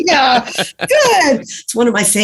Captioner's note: laughs